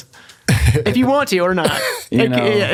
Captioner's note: laughs